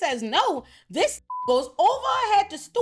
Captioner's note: beep